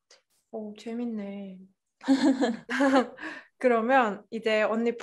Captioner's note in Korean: 웃음